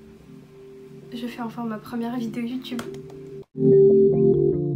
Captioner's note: clap clap clap